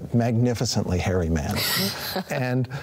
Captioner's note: chuckles